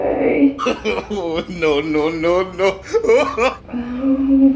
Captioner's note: laughing